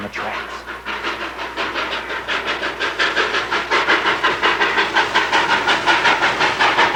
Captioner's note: train chugging slower